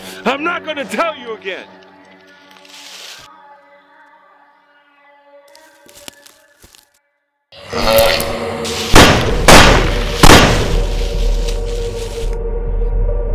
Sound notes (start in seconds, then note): 7.6 demonic grunt; 8.9 gun shooting